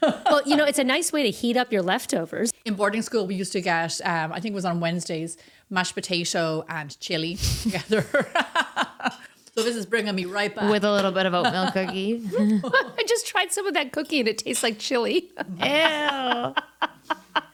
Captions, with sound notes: It's a nice way to heat up your leftovers. In boarding school, we used to get, I think it was on Wednesdays, mashed potato and chili together. (laughing) So this is bringing me right back. With a little bit of a milk cookie. I just tried some of that cookie and it tastes like chili. Ew.